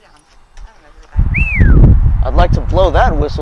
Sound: whistles

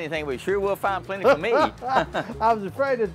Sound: laughs

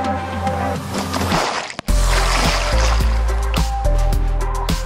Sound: water splashes

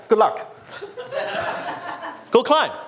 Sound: audience laughs

